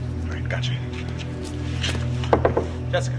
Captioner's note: Чука на вратата